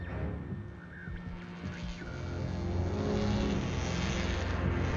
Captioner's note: electric zapping